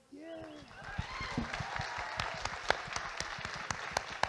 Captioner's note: audience Applauding